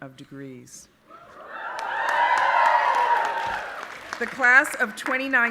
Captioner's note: audience applauding and cheering